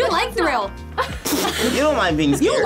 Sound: group laughs

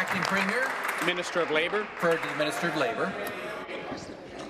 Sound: applause

